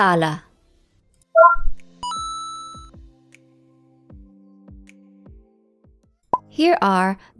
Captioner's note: blip, coin drop